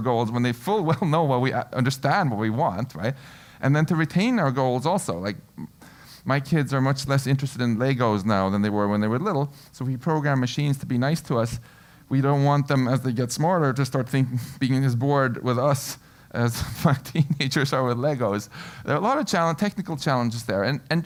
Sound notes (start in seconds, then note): 17.9 laugh